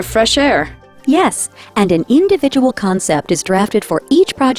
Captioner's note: voiceover